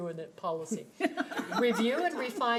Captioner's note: chuckles; laughing